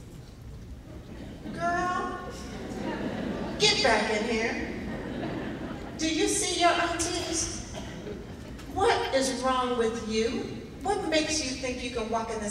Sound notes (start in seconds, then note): 3.3 laughing